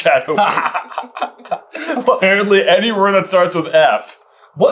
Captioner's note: boyish cackle